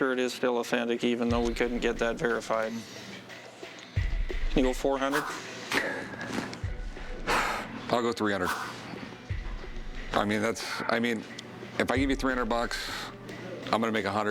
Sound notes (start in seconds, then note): 5.1 exhales